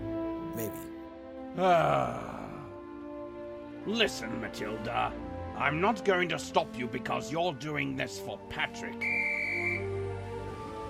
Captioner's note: sighs